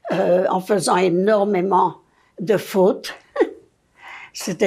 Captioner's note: laughing